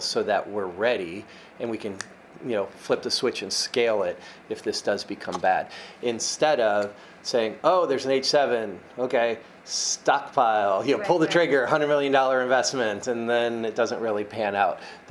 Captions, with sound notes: so that we're ready and we can (snaps fingers) you know flip the switch and scale it if this does become bad. Instead of saying, oh, there's an H7, okay. Stockpile. Here, pull the trigger, a hundred million dollar investment and then it doesn't really pan out.